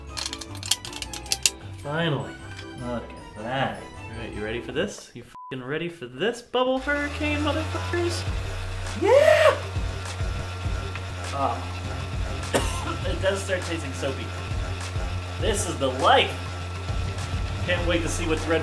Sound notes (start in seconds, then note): 12.4 coughs